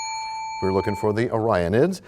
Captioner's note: bell rings, time expires